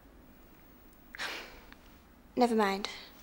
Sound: sighing

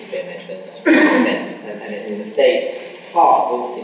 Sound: coughing masks speaker

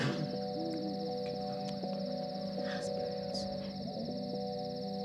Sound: chattering

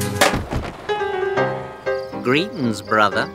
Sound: honking

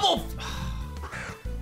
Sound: sighs

